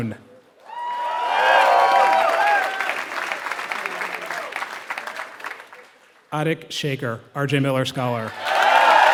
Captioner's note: applause; applause